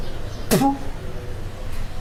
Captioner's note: spitting